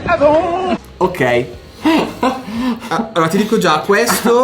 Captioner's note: laughters